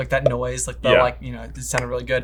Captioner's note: makes popping sound